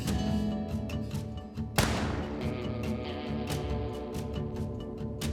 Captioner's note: gun shot firing